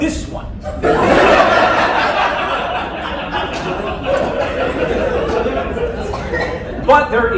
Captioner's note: laughter